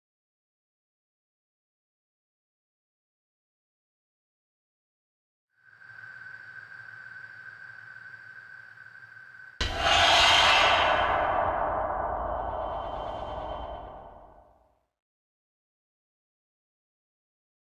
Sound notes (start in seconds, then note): 9.6 creepy sound effect